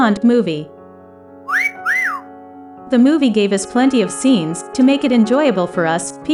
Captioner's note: wolf whistle